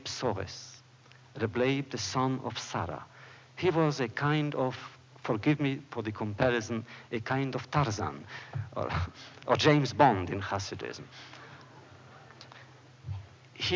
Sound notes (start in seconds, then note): 8.5 laughs; 11.3 laughter